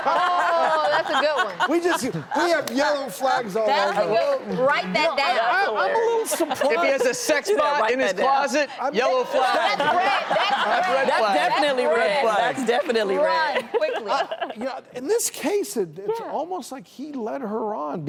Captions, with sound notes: (Laughter) Oh, that's a good one. We just, we have yellow flags all over. That's a good one, write that down. That's hilarious. She said write that down. If he has a sex bot in his closet, yellow flag. That's red, that's red. Red flag. That's definitely red. That's definitely red. Run quickly. (Laughter) Yeah, in this case, it's almost like he led her on